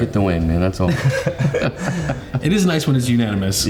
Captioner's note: laugh